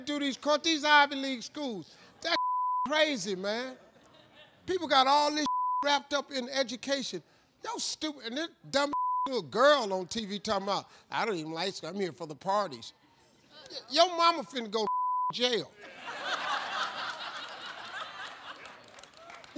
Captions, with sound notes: These are Ivy League schools. That (beep) crazy, man. People got all this (beep) wrapped up in education. No, stupid, and this dumb (beep) little girl on TV, talking 'bout, "I don't even like school. I'm here for the parties." Your mama finna go to (beep) jail. (audience laughs)